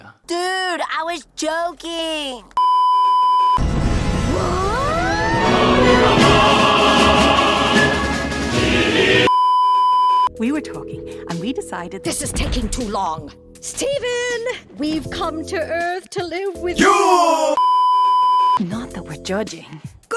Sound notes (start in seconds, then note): 2.6 beeeeeep; 9.3 beeeeeep; 17.6 beeeeeep